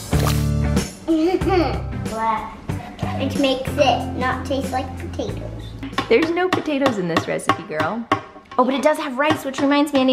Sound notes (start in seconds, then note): 0.1 squelches; 1.1 giggles